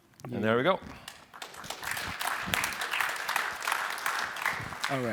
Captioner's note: applause